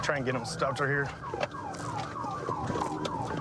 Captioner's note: sirens blaring